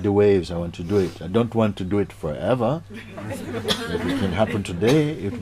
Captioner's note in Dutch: Gelach